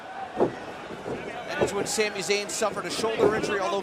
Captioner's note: crowd cheering